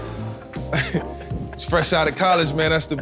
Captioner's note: laughing